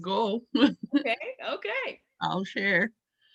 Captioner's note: laughs